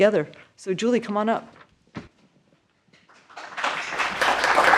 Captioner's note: applause